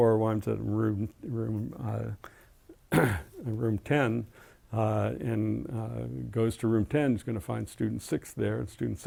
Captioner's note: cough